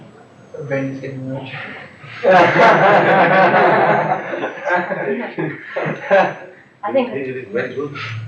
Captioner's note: laughter